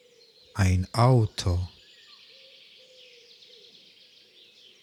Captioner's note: german